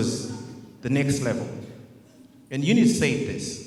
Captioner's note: audience murmurs